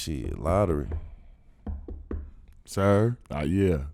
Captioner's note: knocking on table